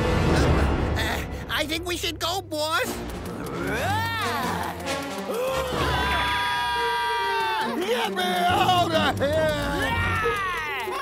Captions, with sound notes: -Uh, I think we should go, boss. -Roar! -[ Screaming ] -Get me outta here! -Aaaah!